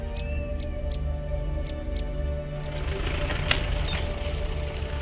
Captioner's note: birds calling; soft music